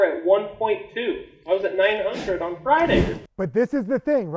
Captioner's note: wind whooshing